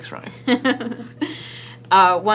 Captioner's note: laughs